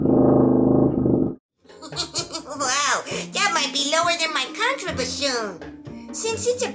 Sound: laughing

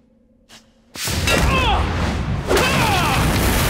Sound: grunting

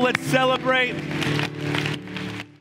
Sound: congregation applauds

